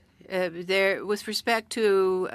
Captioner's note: speaking French